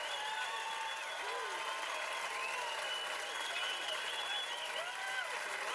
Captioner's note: cheers and applause